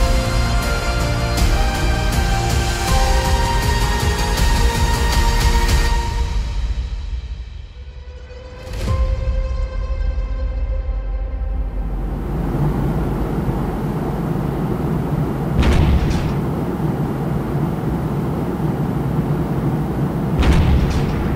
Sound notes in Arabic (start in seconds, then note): 11.6 صوت محرك الطائرة; 15.6 إطلاق نار; 20.3 إطلاق نار